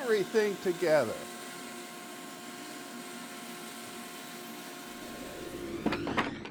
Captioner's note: bandsaw whirring